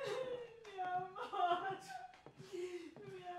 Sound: sobbing; speaking in Spanish

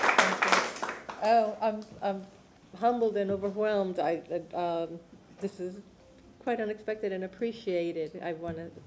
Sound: applause

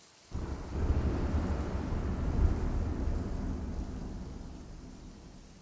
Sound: rain falling; clapping thunder

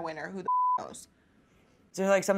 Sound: beeping

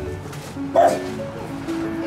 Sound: bark

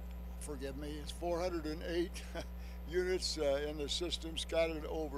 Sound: chuckles

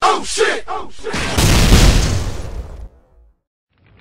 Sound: echoes; explode

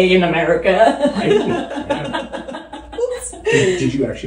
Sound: laughing

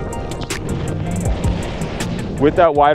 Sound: upbeat music; board whooshing

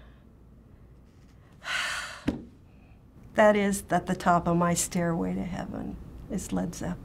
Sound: sighing

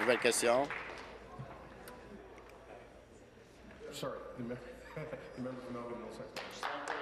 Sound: applause

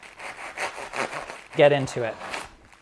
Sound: crunching

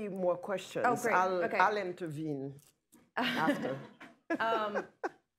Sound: laughter

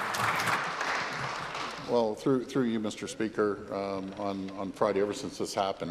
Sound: applause

